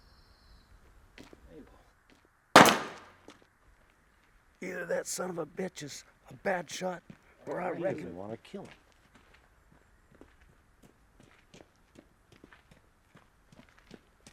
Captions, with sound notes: Mabel. (gunshot popping) - Either that son of a bitch is a bad shot or I reckon- - He doesn't want to kill him.